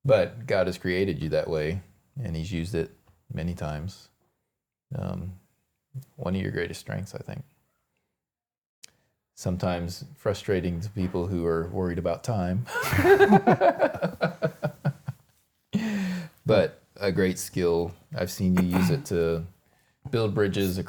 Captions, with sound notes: But God has created you that way and he's used it many times. One of your greatest strengths, I think. Sometimes frustrating to people who are worried about time. (both laughing) But a great skill, I've seen you use it to build bridges